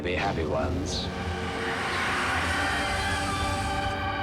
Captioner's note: howling